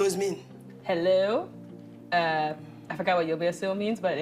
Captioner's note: speaking Arabic